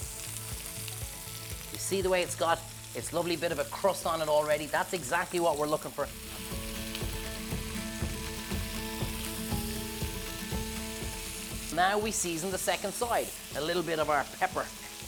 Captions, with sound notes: You see the way it's got it's lovely bit of a crust on it already. That's exactly what we're looking for. (bright music) (fish sizzling) Now we season the second side. A little bit of our pepper.